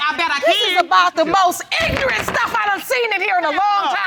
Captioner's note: gavel clatters